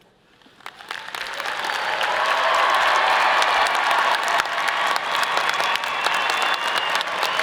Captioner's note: all applauding; all cheering